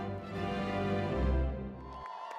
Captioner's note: cheering